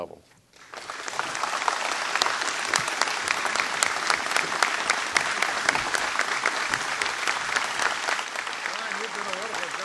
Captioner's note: applause